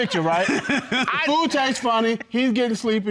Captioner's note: laughing